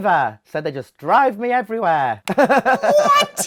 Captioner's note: chuckles